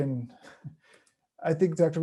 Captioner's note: chuckles